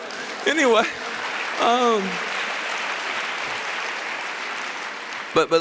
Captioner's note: applause